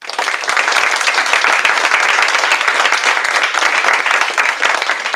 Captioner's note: applause